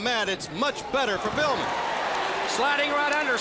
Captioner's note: crowd cheering